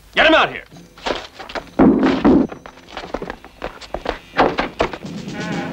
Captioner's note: ominous music; banging